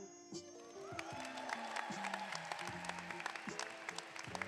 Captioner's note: audience clapping